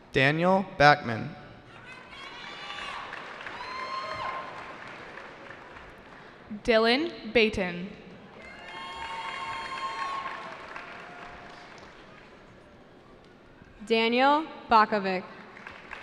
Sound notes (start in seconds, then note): 1.8 cheering; 8.3 cheering